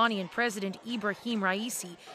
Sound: chanting

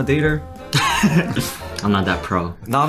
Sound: laughing

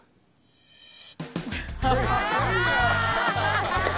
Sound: laughter; clapping

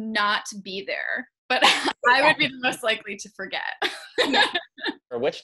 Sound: laughs; laughing

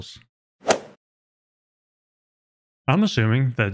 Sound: golf ball hit sound effect

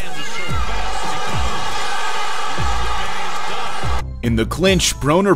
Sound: crowd noise

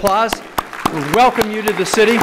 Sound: applause

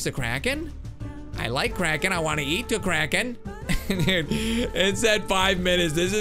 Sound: laughs

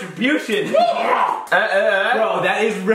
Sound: short yelp

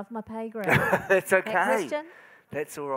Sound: moderator laughing

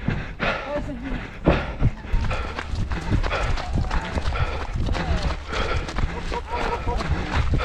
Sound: cheers

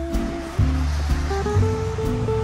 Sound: rain pelting; fun music

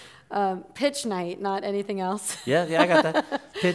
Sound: laughs

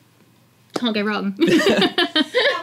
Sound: laugh

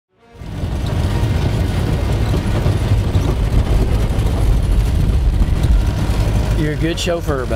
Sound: engine noise

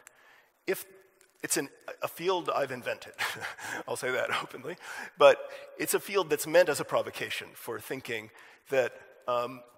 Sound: chuckle

